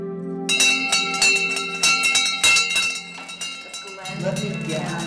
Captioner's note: bell ringing